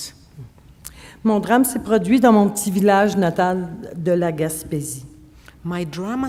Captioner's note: speaking French